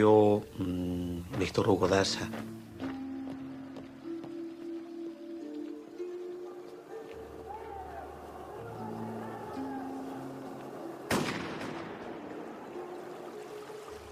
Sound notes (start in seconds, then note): 11.1 gunshot